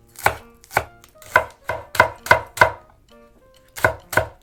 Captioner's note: tok tok tok